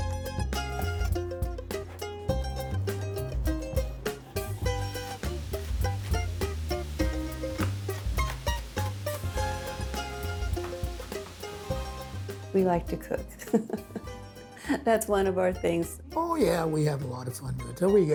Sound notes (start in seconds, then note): 0.1 lively music; 13.4 chuckle